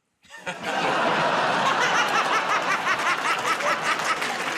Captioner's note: laughs; audience groans